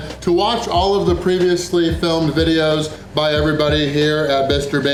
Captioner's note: none